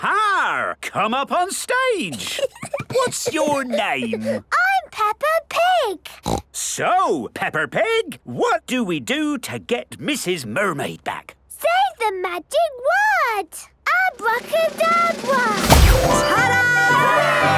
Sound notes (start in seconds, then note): 2.1 Peppa giggles; 6.2 snorts